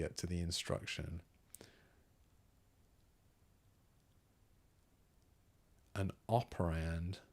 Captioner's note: silence